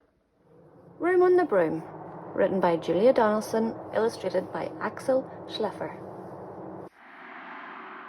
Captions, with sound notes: Room on the Broom. Written by Julia Donaldson. Illustrated by Axel Schleffer [Wind]